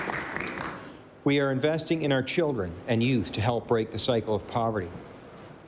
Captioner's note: applause